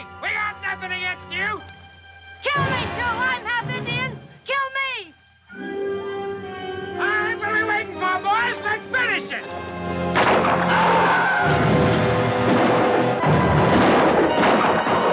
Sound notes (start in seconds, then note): 10.1 gun fires; 10.5 Apache screams; 12.6 guns fire